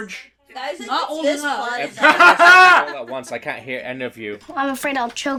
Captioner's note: laughter